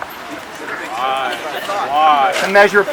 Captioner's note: crowd